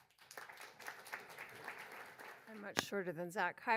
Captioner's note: audience applauds